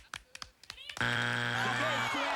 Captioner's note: buzzer